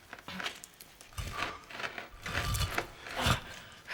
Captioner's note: scratching